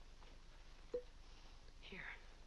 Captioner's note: corks pops